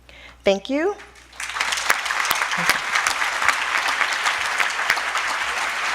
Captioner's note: audience applauding